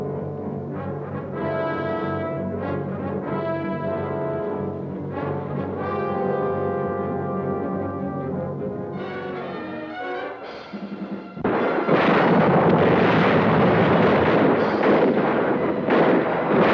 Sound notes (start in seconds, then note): 0.3 tense adventurous music; 11.4 gunshots blasting